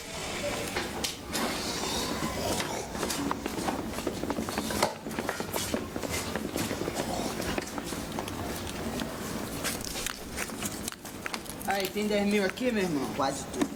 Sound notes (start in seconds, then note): 4.0 footsteps